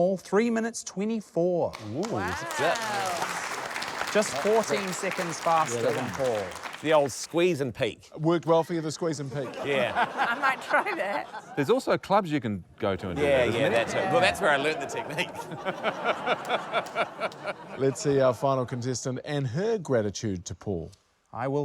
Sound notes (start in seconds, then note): 1.7 applause; 9.2 laughter; 17.1 laughter